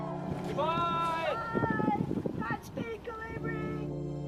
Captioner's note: cheering